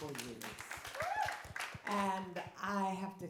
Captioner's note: audience claps